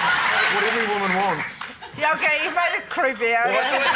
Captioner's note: laughter